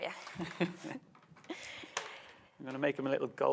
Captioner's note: both chuckles